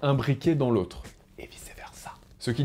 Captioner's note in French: chuchote